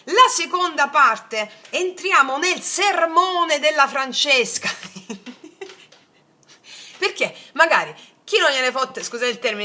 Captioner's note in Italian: risate